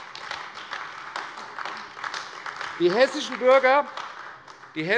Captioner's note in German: Beifall AfD